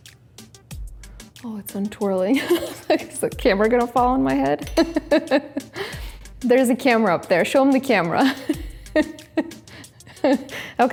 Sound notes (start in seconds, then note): 6.0 laughs; 9.9 laughs